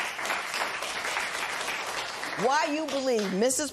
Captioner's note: applause